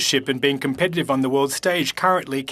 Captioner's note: speaking French